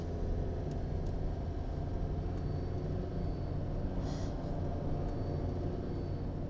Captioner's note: engine revving; tense music